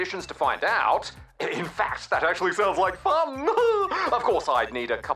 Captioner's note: laughs